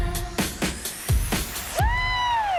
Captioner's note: applause